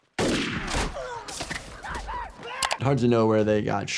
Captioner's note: gun firing